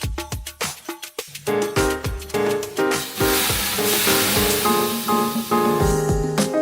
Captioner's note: pouring water on hot stones